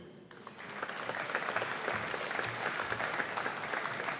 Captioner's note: audience applauding